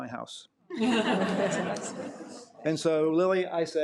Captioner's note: audience laughing